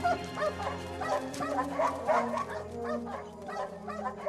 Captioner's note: barking continues